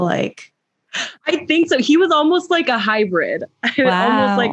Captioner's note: laughs